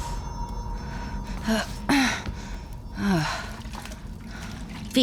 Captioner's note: groaning